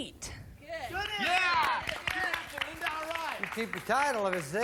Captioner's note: applause